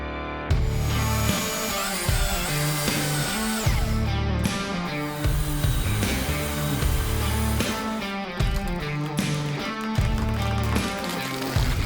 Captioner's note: chainsaw sounds